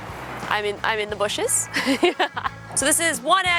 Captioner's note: laughs